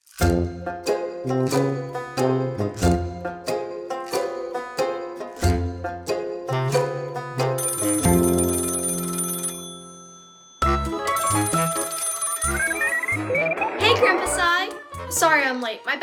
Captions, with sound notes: (quirky music) (phone ringing) (electronic beeping) - Hey Grandpa Scy Sorry I'm late.